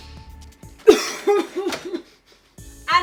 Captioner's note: cough attack